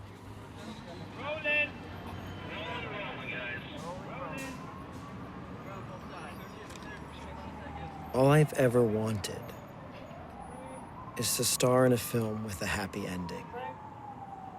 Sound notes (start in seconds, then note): 0.3 film crew chattering